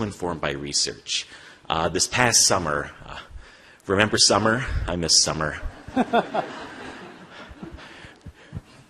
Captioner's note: laughter